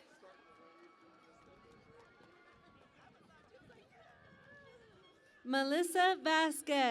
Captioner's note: cheering and Applause